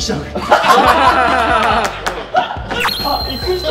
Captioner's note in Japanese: 笑い